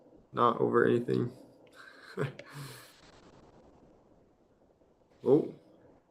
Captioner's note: chuckles